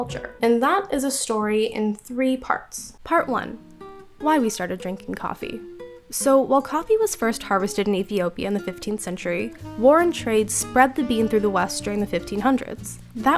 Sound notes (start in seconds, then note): none